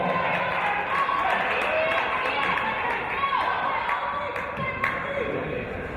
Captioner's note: cheering and applause